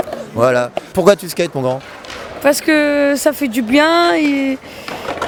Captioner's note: speaking in foreign language